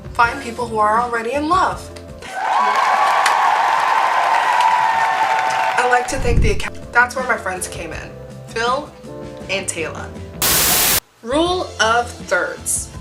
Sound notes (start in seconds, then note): 2.2 applause